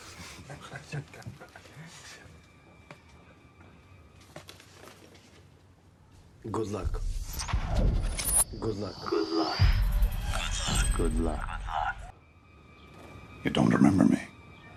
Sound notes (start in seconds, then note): 0.1 speaking in foreign language; 1.9 men chuckle; 9.7 good luck echoes